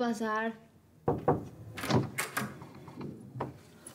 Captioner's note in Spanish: toques en la puerta